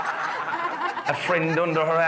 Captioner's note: guests laughing